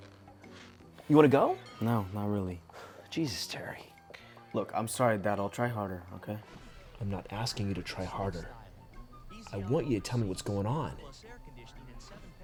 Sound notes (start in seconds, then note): none